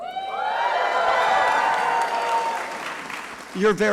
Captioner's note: crowd cheering